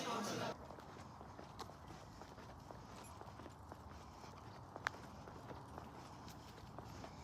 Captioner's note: feet stepping, jeans shuffling